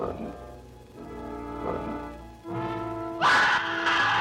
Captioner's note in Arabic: يئن; يصرخ